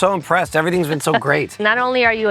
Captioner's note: chuckles